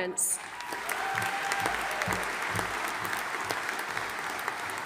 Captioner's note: audience applauding